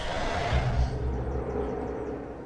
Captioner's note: gasping